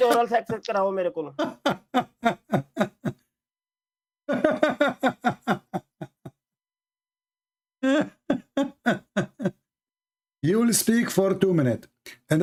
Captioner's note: Ketawa